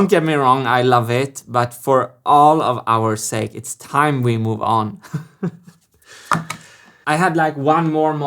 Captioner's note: chuckles